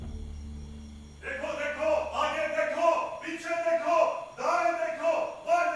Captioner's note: in Urdu